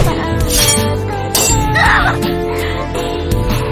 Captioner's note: screams